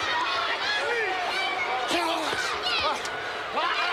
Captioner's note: crowd shouting